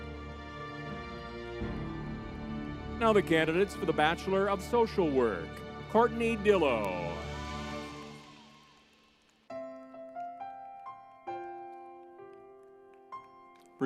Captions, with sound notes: (tense music) Now the candidates for the Bachelor of Social Work, Courtney Dillow. (crowd cheering) (spirited music)